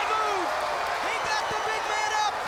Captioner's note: crowd cheering